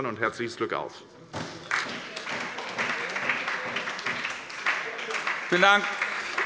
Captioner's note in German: Anhaltender Beifall bei der SPD